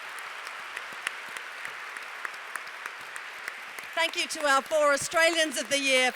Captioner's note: applause